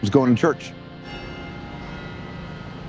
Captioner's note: church bells ringing